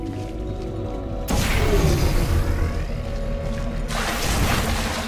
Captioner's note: gun blasting; water splashing